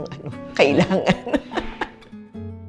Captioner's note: laughs